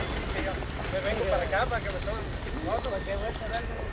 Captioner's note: construction workers speaking Spanish